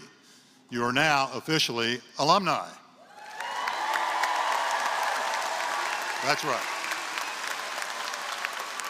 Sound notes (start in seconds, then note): 3.2 applause